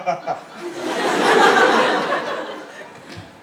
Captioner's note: laugh